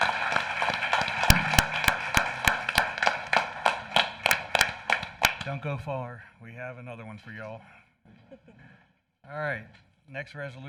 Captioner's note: applause